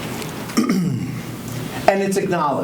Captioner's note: clears throat